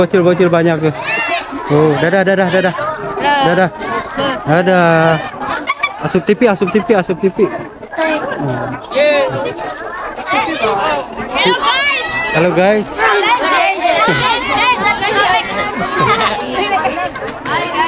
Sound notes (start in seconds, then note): 2.5 laugh